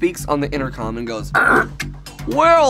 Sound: mimics radio static

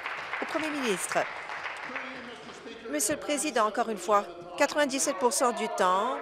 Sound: applause

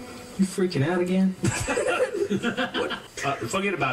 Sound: laughter

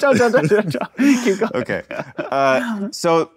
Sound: chuckling

